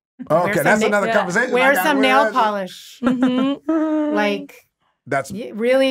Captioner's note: chuckling